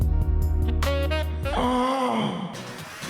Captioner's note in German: stöhnt